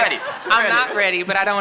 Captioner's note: laughter